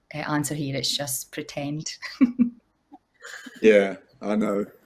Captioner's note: laughs